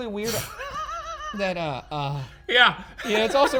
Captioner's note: laughs